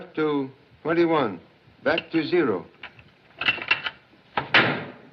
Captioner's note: dial Clicking; door Bangs